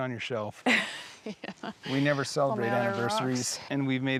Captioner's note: laughs